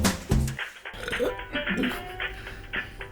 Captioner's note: burps